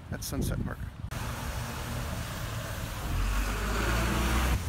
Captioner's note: traffic sounds